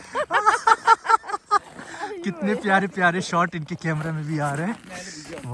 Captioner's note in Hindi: हंसी